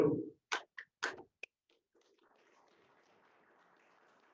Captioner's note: applause